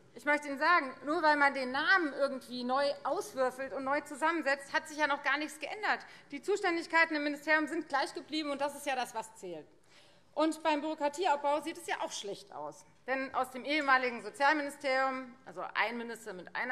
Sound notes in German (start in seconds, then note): none